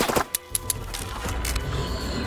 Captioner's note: rifle clicks; vampire growls